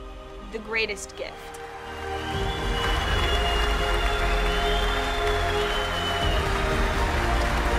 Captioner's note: triumphant music; crowd cheering